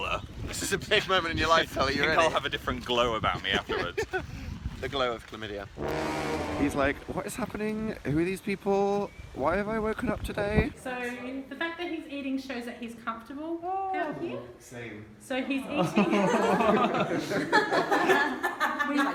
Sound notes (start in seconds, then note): 5.8 ominous sound effect; 15.6 laughter